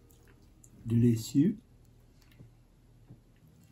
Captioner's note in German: Auf Französisch